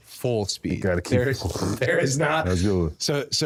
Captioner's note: both laughing